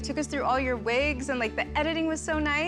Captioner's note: none